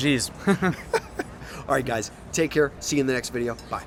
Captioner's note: laughs